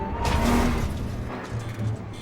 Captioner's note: loud scraping sound